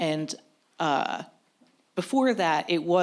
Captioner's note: none